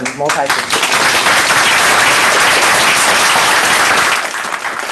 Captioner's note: applause